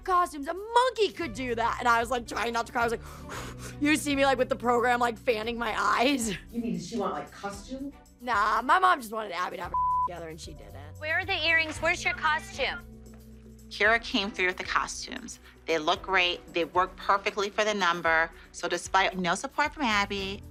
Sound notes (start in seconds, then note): 3.5 panting